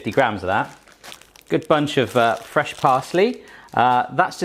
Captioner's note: crinkling